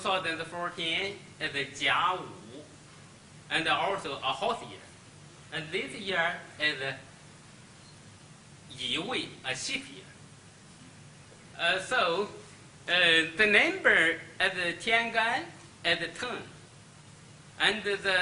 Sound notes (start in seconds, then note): 1.8 speaks Chinese; 9.3 speaks Chinese; 14.6 speaks Chinese; 17.7 speaks Chinese